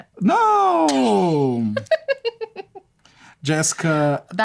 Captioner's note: laughter